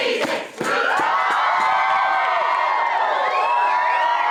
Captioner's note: chanting; all cheering